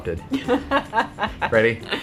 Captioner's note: laughing